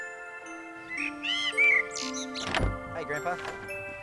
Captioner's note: birds chirping